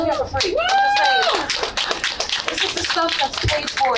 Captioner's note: applause